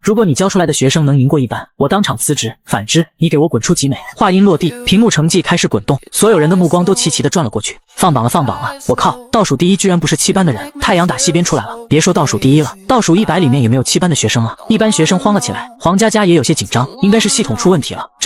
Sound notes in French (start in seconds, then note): 4.2 Voix posée